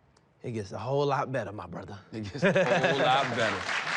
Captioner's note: laughs